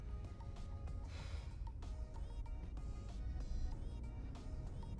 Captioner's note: Abby huffs